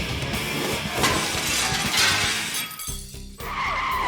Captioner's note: upbeat dramatic music; glass shatters; tires screech